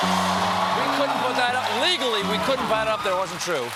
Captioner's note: cheers and applause